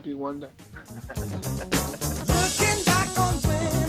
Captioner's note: Barney laughs